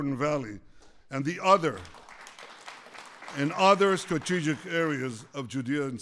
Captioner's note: applause